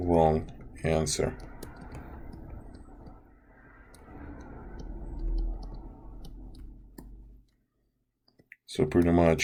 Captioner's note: typing and Background Sounds